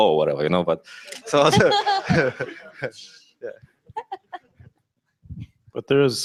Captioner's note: laughter